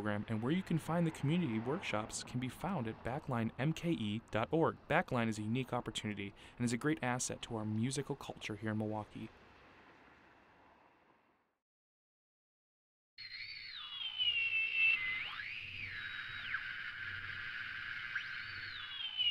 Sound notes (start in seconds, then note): 13.2 whirring sound